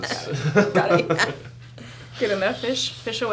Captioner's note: laughing